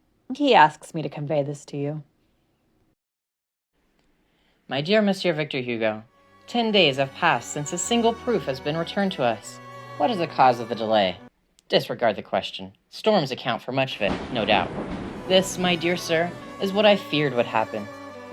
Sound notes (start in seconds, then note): 6.1 sad violin music; 11.6 music stops; 14.0 thunderclap